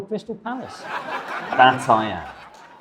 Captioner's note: audience laughs